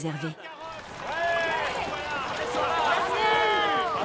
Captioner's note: crowd cheering